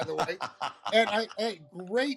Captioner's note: laughter